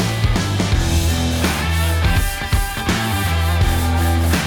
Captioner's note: rough Sanding